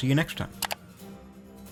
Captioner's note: mouse clicks